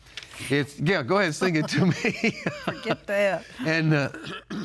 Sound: laughs

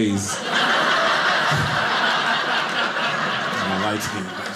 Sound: audience laughing

